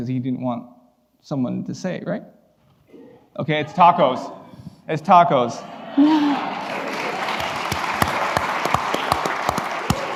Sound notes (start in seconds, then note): 6.2 applause